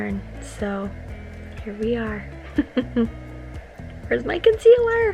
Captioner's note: laughing